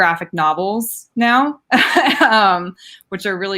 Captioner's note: laughing